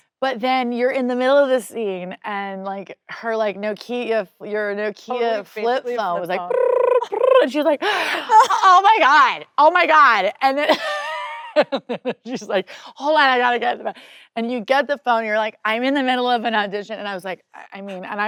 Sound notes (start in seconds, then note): 5.8 mimicking ringing